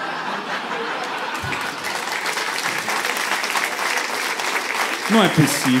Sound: applause

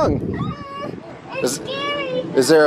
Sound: children shrieking

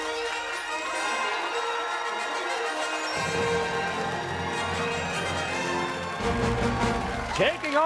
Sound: fanfare; cheers and applause

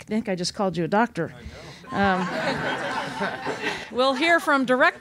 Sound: laughter

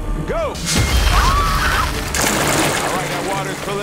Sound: shriek

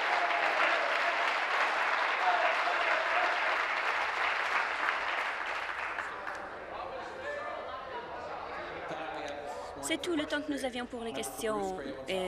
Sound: applause

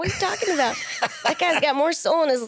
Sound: laughs

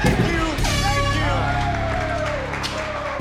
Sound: horn; applause

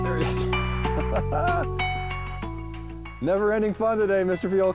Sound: laughs

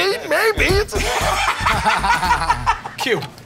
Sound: laughter

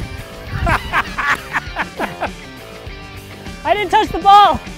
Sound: laughing

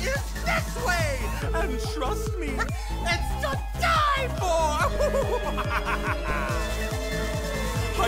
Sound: laugher

